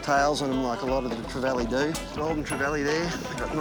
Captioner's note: chuckles; laughing